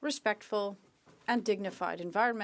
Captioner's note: speaking French